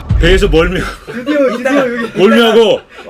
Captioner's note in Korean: 웃음